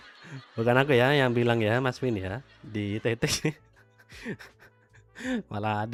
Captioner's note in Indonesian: tertawa